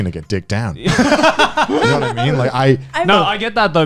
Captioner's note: laughing